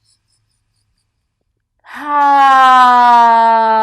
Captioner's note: sighs loudly